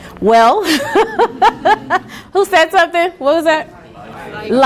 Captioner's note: laughs